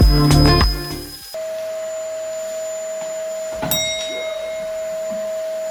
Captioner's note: vacuum cleaner whirring